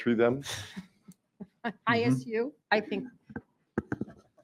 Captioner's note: chuckles